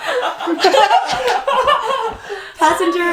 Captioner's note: laughing